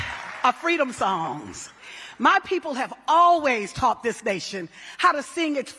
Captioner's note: cheering